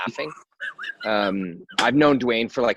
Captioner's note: laughing